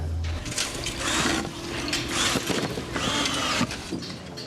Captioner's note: drill noise